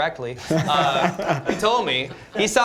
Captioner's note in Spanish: risas